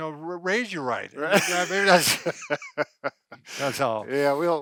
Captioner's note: both laughing